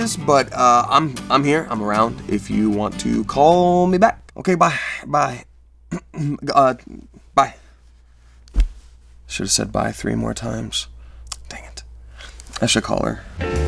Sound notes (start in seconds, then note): 5.9 clears throat